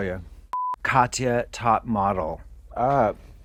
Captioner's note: beeping